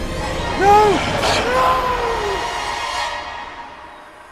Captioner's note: Bill screams